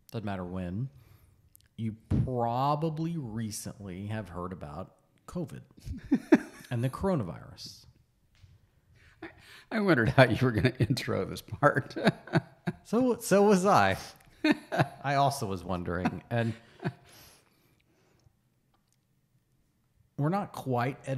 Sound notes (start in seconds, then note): 8.2 laughs; 14.4 laughs